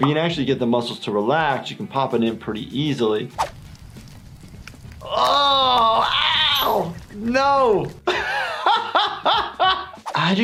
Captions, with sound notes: If you can actually get the muscles to relax, you can pop it in pretty easily. (yelling) Oh, ow. No. (laughs)